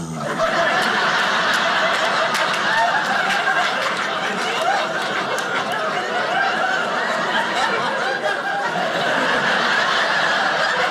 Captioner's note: audience laughing